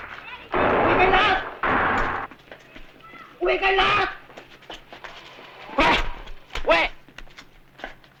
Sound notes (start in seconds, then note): 0.7 non-english speech